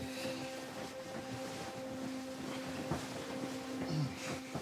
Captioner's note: bedding rustling